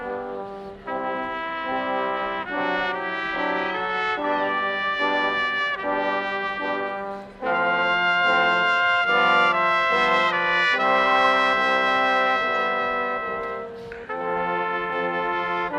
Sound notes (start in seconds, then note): none